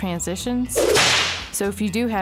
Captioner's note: bull whip